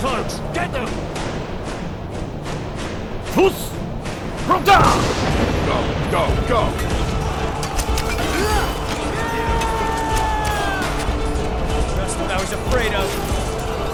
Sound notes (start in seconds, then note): 6.8 arrows Flying; 8.2 battle Sounds